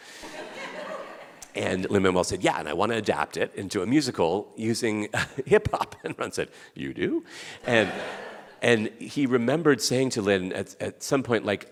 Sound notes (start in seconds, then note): 0.1 audience laughing; 7.6 audience laughing